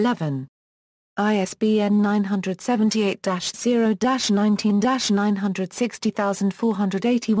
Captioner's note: German